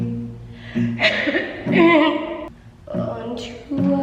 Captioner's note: coughing